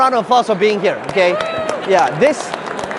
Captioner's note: attendees clapping